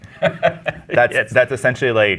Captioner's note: laughing